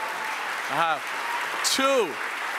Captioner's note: audience applauds